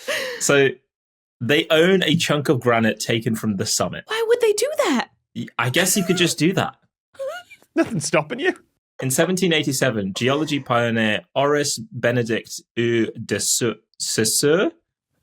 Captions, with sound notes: So... they own a chunk of granite taken from the summit. Why would they do that? I guess you could just do that. (wheezes) Nothing's stopping you. In 1787, geology pioneer Horace Bénédict de Saus— Saussure...?